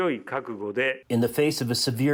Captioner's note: through translator